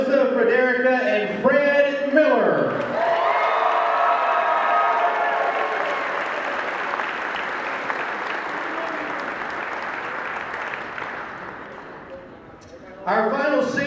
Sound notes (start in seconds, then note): 6.5 cheering